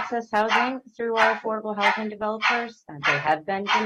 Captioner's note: barking